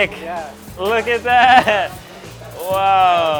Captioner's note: chuckling